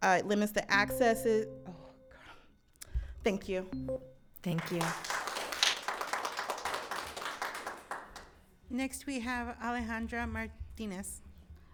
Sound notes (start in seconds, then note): 0.7 timer beeps; 4.5 audience clapping